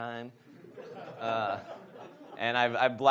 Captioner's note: audience laughs